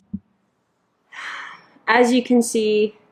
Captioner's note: sigh